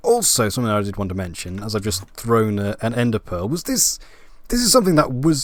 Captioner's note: none